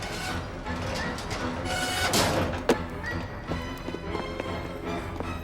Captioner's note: ladder creaking; dramatic music